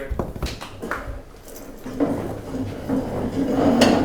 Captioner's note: chairs scraping the floor as people get up to leave